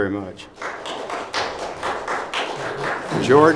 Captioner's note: clapping